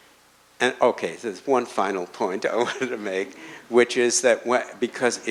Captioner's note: chuckles